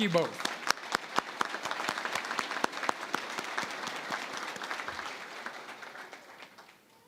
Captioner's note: applause